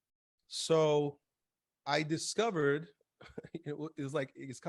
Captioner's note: laughs